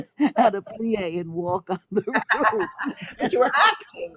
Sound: laughs

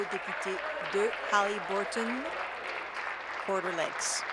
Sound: applause

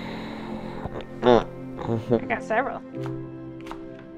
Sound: grunts

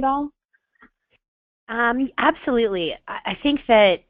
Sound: voiceover

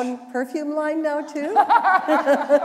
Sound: laughter

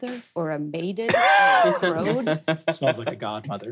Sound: people laughing

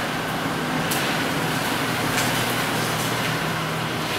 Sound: wheels spinning

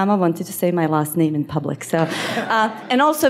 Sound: audience laughs

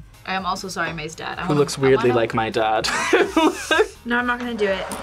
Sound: laughs

